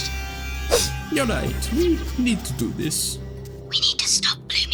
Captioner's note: sniffs